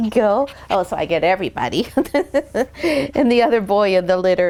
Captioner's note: laughs